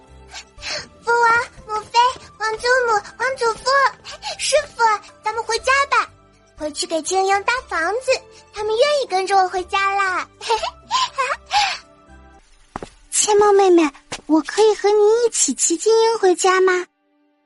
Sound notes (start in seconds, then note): 10.4 laughing happily